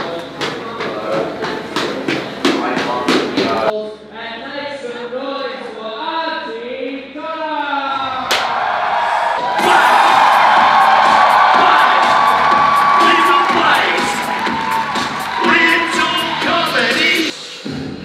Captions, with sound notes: And make some noise for Aunty Donna!!! (clap) (cheering) Plays. Plays. Little Plays. Little Comedy